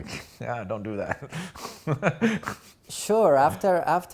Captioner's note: laughing